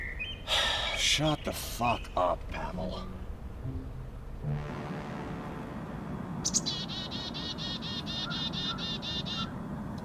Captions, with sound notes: [sigh] Shut the fuck up, Pavel. [tense music] [birds chirping]